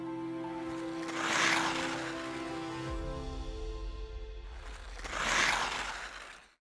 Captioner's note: light music; skate scraping